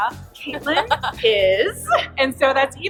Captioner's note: laughs